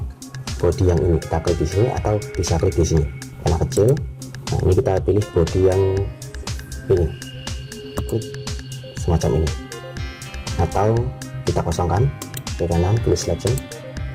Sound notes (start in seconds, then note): 7.6 click